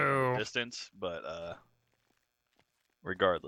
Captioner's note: puke